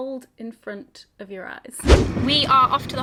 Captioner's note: video swooshes